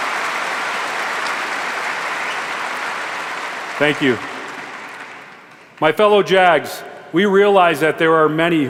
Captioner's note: applause